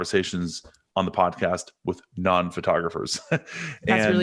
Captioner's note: chuckles